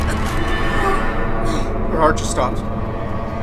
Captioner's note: grunting